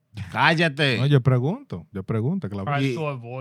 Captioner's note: speaking In Foreign Language